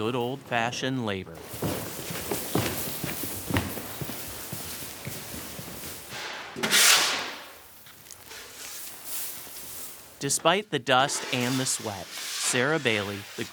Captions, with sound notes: just calls for some good old-fashioned labor. (dumping seed and scooping) Despite the dust and the sweat,